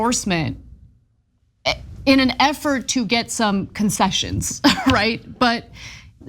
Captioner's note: laugh